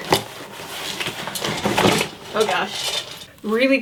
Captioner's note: crashing